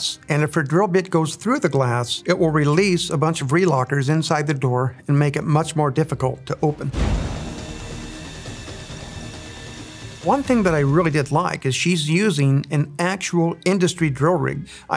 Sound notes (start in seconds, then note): 6.2 dramatic music; 7.3 drill whirring